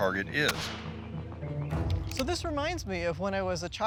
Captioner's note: gunshot echoes